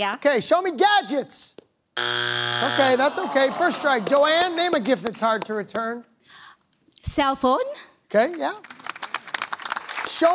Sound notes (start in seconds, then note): 2.0 buzzer sounds